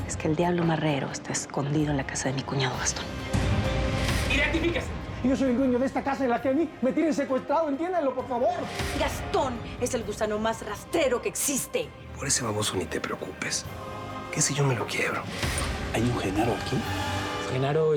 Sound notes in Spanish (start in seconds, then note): none